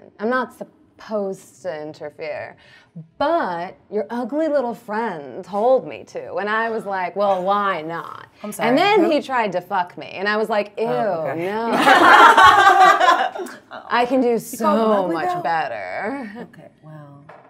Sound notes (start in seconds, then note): 11.6 all laughing